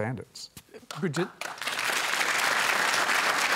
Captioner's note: applause